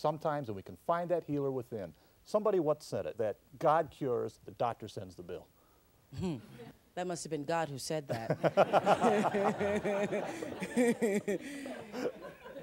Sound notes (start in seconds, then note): 6.1 Oprah chuckles; 11.3 all laugh